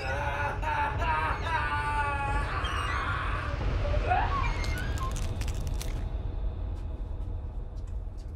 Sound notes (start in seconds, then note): 2.6 Sean screaming; 2.6 bone crunching